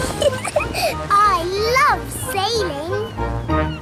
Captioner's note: giggles